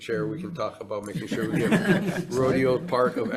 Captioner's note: members laughing